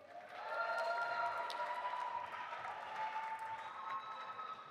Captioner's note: audience applauding